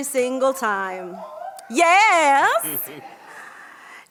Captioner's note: audience cheers